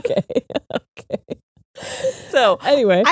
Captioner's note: both laughing